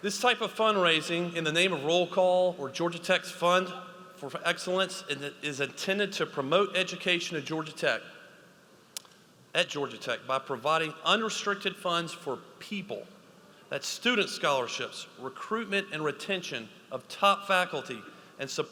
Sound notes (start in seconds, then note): none